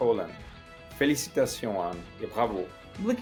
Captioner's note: non-english speech